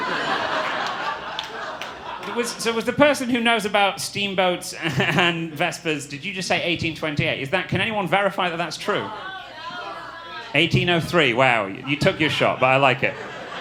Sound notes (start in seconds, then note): 0.0 audience laughing; 8.8 audience sounding disagreement